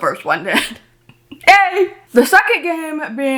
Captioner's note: woman laughs